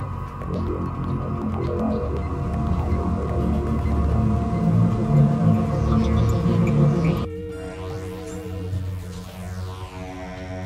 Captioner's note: scanners activating